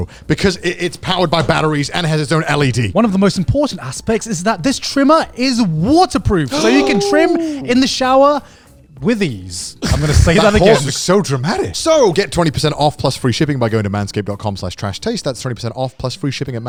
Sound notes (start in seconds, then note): 6.5 gasping